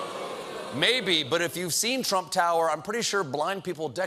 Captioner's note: audience reacts